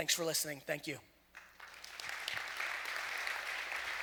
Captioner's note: audience applause